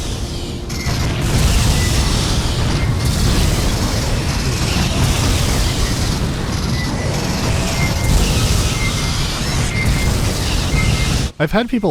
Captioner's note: all the sounds of a battle overlap and form obnoxious cacophony